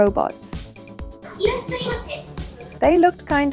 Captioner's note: robot Speaking